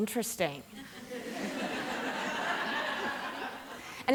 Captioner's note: laughter